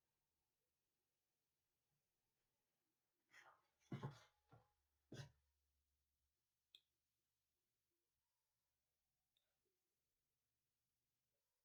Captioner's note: silence